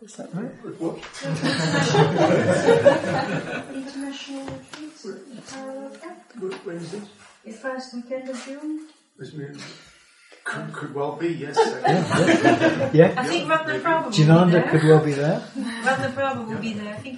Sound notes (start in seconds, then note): 1.2 laughter; 11.5 laughter